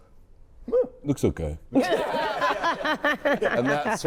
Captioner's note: all laughing